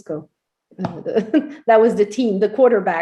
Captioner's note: laughs